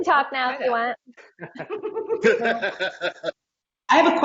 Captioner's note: laughing